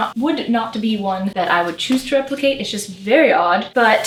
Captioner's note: none